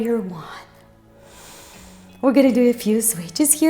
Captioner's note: inhales